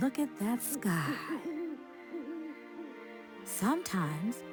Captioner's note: owl hooting